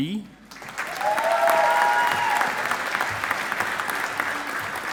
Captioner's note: audience applauding